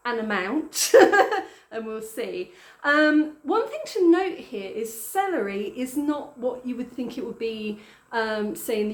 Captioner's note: laughing